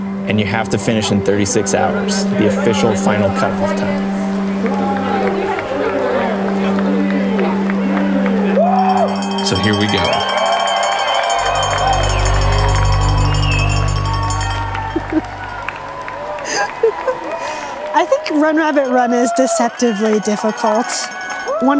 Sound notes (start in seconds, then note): 11.4 cow bell rings; 16.3 laughs